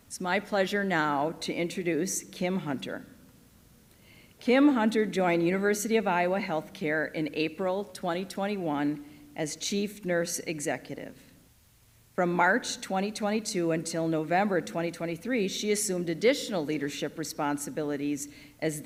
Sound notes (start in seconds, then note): none